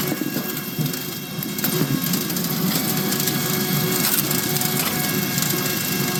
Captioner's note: drill whirring